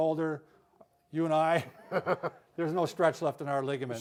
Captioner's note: laughs